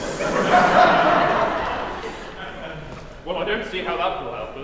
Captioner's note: laughter